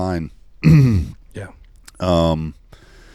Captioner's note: clears throat